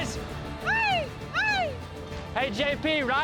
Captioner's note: shouts